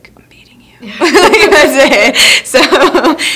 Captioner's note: both laugh